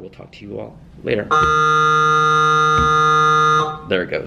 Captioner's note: bell buzzes